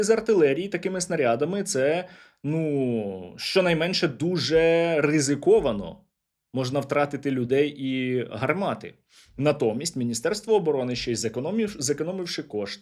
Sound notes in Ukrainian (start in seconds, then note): 9.3 сопіння